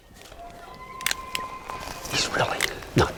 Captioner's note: elk bugle